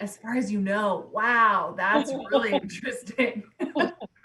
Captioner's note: loud laughs